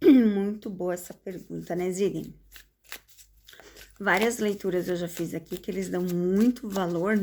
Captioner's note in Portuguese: limpando a garganta